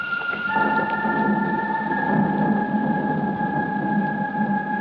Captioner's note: thunder rumbling